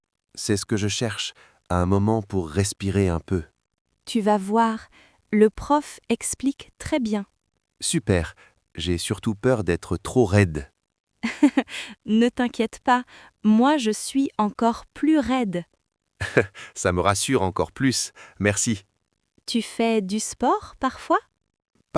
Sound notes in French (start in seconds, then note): 11.1 rire